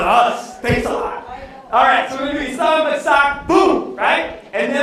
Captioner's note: non-english speech